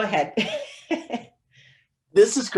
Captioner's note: laughs